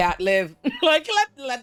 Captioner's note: laughs